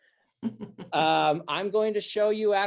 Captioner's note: person laughs